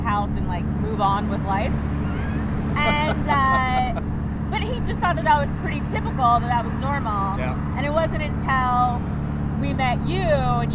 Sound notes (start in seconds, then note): 2.0 laughing